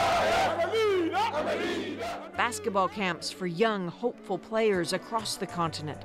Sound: chants

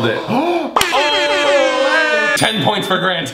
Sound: cheering

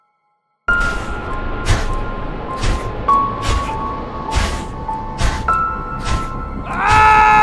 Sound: heavy footsteps in movie; scream in movie

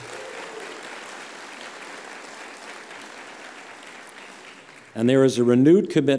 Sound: applause

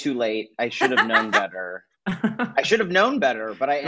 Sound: laughs

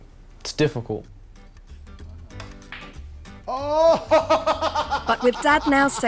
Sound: laughs

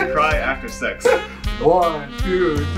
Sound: laughing

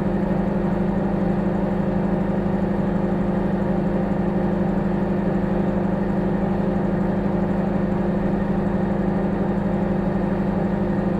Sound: microwave humming

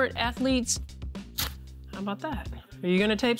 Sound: tape tearing

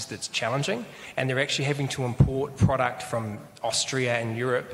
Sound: none

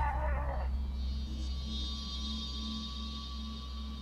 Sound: screaming

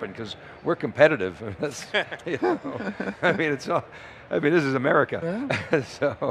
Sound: laughs

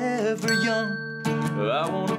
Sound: timer dinging

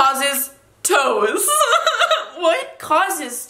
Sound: laughs

